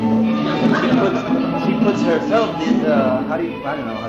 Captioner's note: laughter